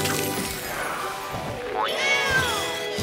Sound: meowing

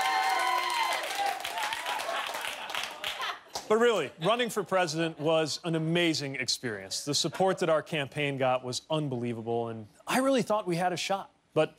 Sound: cheers and applause

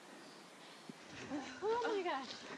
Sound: river flowing

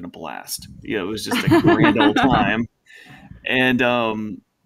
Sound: laughing

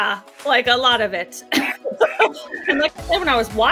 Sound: laughter

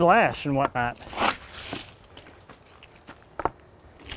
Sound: water splashing

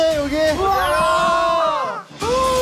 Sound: argh!

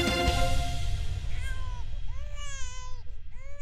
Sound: baby crying

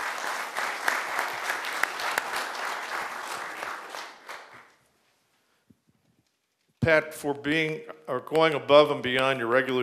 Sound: applause

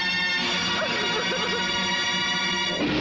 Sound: sobbing

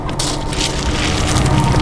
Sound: rocks sliding

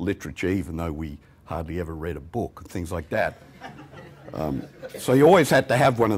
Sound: laughter

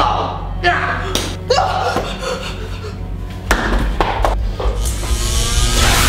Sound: grunts; gasps; snowball thuds

